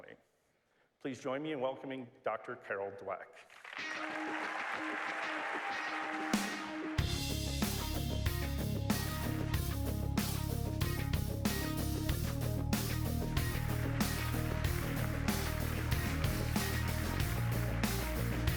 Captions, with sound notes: Please join me in welcoming Doctor Carol Dweck. [applause]